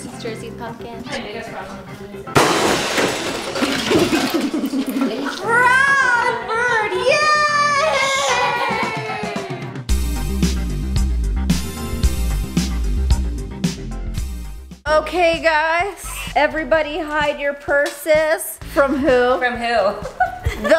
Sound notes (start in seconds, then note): 2.3 loud crash; 3.8 laughing; 10.1 upbeat music